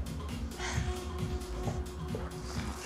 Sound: sighs

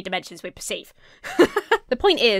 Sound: laughs

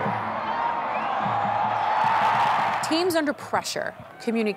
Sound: crowd cheering

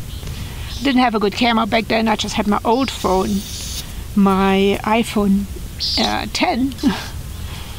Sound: laughs

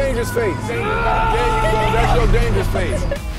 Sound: growling; laughter

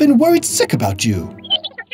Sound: R2-D2 noises

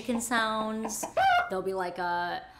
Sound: clucking

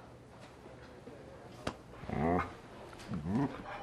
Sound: soft growl

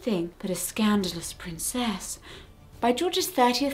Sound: gasp

